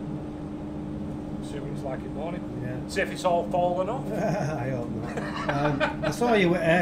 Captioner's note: laughs